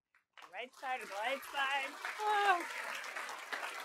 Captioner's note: applause